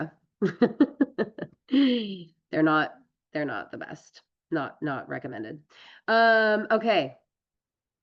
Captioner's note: laughs